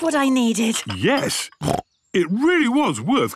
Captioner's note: snorts